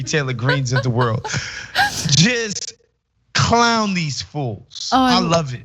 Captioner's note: laugh